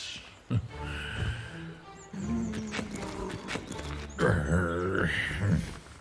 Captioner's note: groans sitting down